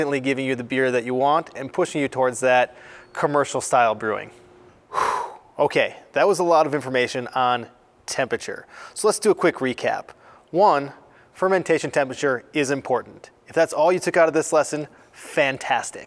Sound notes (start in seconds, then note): 4.8 sighs